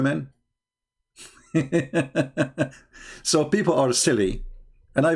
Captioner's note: Ketawa